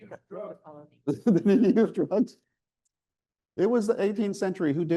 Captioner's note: chuckling